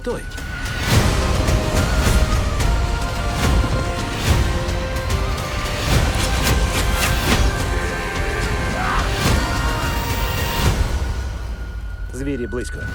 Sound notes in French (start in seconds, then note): 7.5 cris de bataille; 10.2 pause de la musique